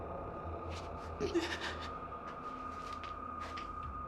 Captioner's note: sobbing